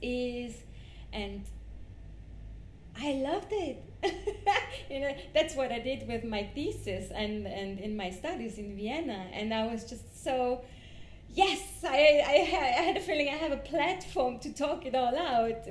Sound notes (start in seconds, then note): 4.0 laughs